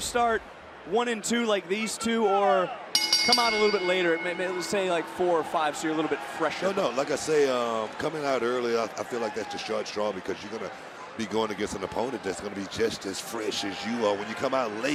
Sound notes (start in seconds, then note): 2.9 bell rings